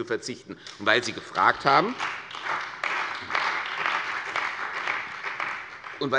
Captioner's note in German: Beifall bei der CDU und dem BÜNDNIS 90/DIE GRÜNEN